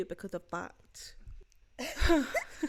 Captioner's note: laugh